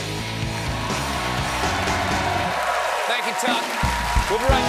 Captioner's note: cheers and applause